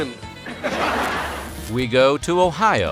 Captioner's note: laughter